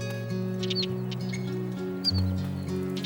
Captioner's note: bird chirping